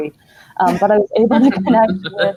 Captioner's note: laughing